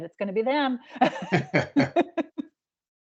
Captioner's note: laughing